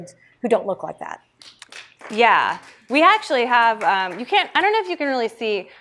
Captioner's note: audience members applaud